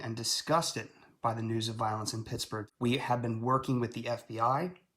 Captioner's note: none